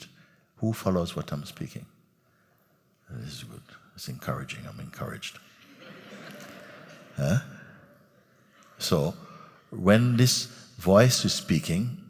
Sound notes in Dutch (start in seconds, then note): 8.1 gelach